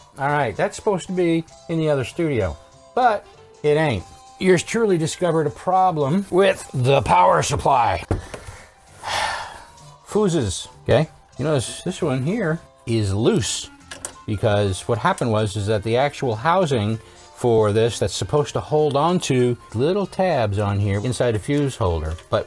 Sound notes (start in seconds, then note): 9.0 sigh